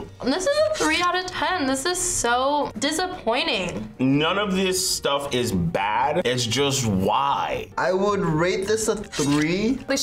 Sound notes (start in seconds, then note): none